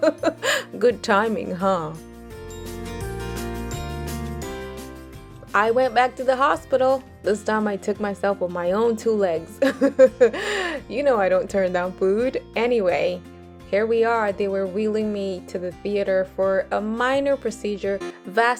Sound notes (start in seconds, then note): 0.0 laughs; 9.6 chuckles